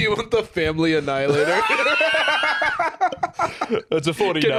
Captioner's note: both laughing